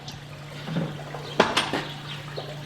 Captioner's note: splashing